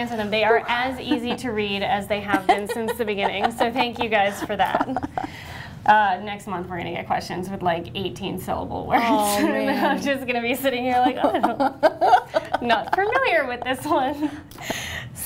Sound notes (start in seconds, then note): 10.9 laughter